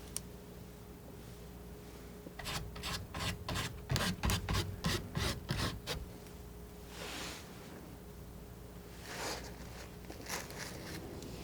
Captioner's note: scratching